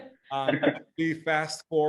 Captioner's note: all chuckle